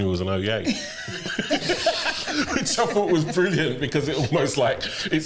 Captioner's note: laughter